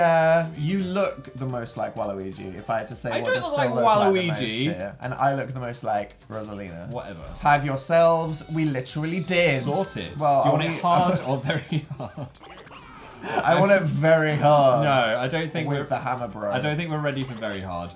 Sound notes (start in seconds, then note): 10.6 laughing